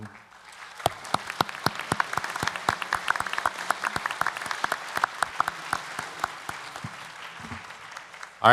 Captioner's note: applause